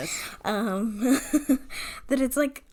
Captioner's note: laughing